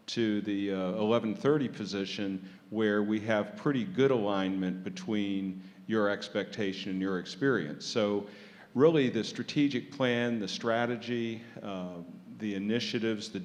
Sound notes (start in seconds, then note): none